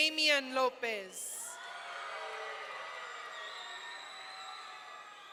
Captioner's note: audience cheering